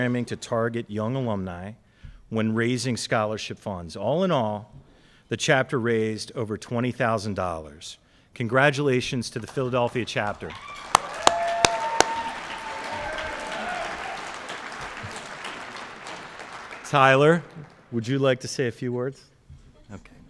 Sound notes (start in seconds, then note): 9.9 cheering and Applause